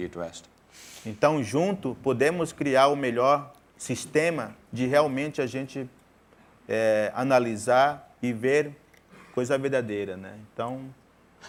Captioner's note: speaking in portuguese